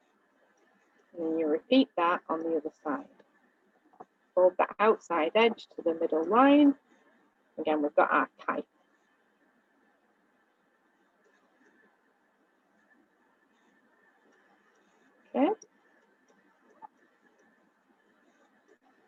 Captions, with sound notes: And then you repeat that on the other side. Fold the outside edge, to the middle line. Again with our kite. [silence] Okay?